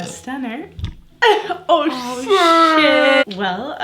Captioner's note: burps